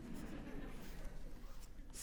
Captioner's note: audience chuckling